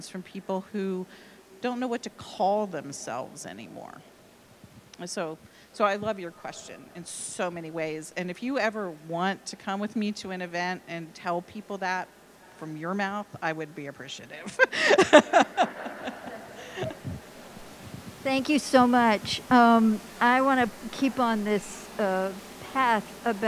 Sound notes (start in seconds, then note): 14.4 laughing